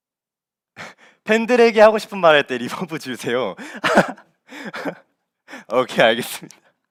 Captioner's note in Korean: 웃음